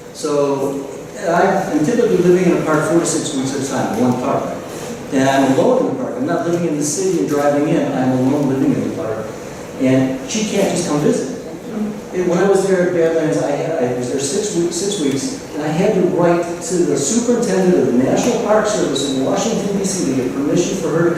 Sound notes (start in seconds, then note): none